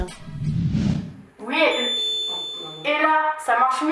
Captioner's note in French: effet Larsen